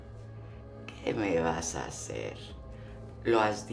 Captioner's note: Spanish